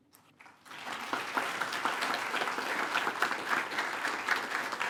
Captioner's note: attendees applaud